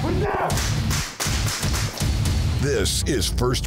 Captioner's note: gunshots